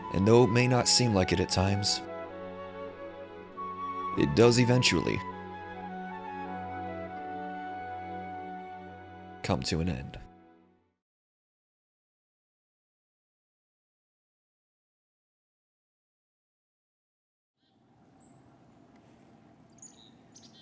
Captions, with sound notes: And though it may not seem like it at times, it does eventually come to an end. (chirping)